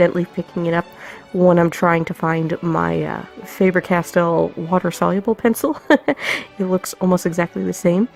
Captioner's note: laughs